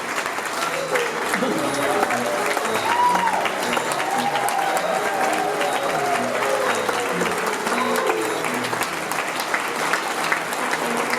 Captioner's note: applause and cheering continue